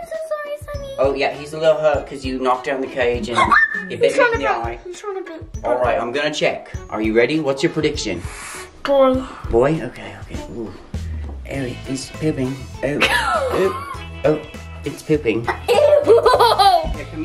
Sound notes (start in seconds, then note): 3.4 screams; 13.0 laughs; 15.4 laughs